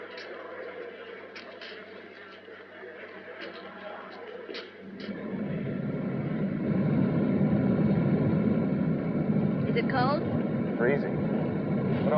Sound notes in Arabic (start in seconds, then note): 0.2 أجواء المطار; 4.7 صوت محرك يعمل